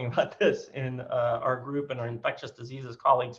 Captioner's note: chuckles